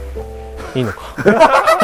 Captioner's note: laughter